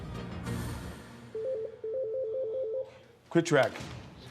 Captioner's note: telephone rings